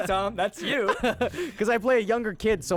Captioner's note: laughing